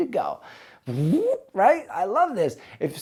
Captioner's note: trilling